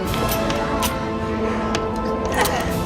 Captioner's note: gun cocking